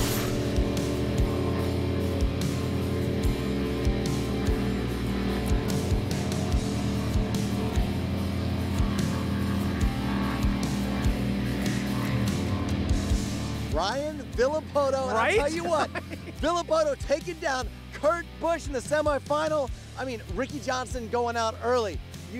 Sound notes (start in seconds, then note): 0.2 jetboat sounds; 15.4 laughter